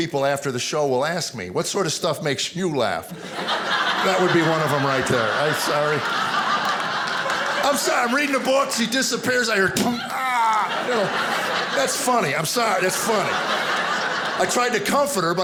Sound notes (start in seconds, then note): 6.2 audience laughing; 9.9 thump